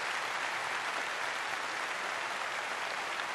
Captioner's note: applause